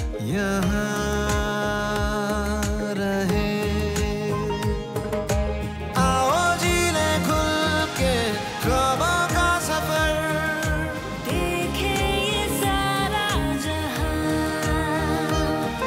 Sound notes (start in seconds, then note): none